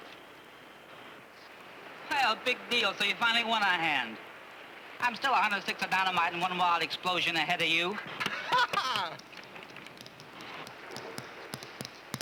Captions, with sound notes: Well, big deal, so you finally won on hand. I'm still 106th of dynamite and one wild explosion ahead of you. (LAUGHS)